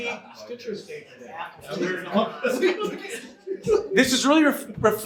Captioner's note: audience chatter